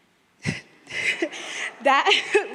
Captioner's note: crowd laughing